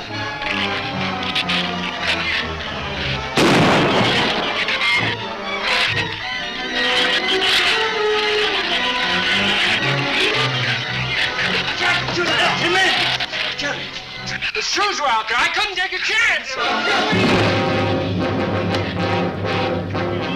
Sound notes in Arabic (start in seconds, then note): 0.1 ثرثرة الزبابة; 3.3 إطلاق نار; 5.5 ثرثرة الزبابة; 16.6 موسيقى أوركسترالية درامية